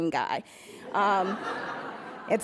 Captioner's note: laughs